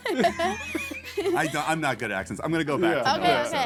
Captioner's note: laughing